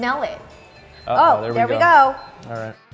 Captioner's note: oven beeping